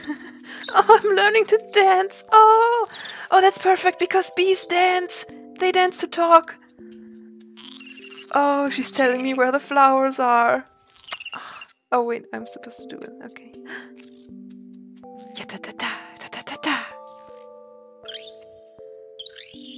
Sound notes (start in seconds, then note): 0.0 giggles; 11.1 clicks tongue, sighs; 13.6 gasps